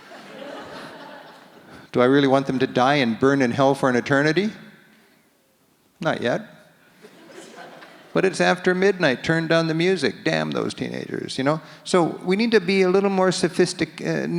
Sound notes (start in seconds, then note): 0.0 audience laughs; 7.0 audience laughs